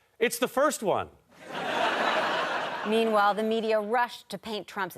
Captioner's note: audience laughter